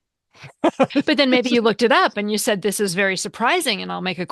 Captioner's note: laughter